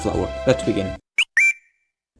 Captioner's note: whistle sound effect